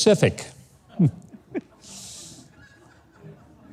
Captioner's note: laughs